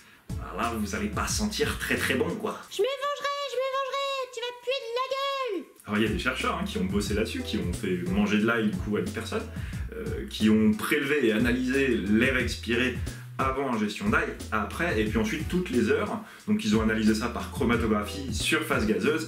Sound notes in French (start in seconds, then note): 2.6 voix aigüe